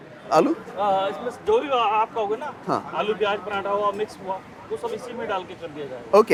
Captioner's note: speaking in foreign language